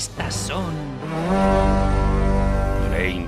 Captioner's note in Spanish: sonido del Gjallahorn